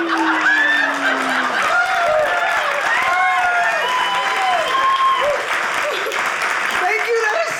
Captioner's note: audience laughing; audience cheering